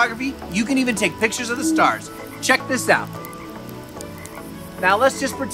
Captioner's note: crickets chirping